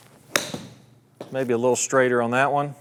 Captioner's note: golf club strikes golf ball